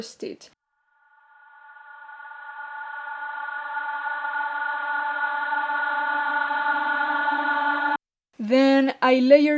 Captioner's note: slow building sweep